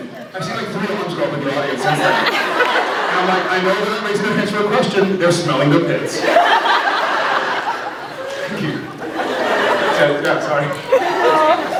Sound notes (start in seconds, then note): 2.2 laughs; 6.1 laughs; 9.1 laughs